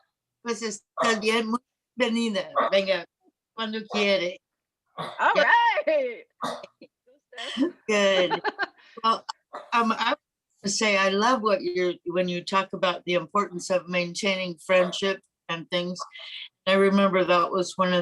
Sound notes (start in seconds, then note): 0.2 speaks spanish; 8.0 chuckles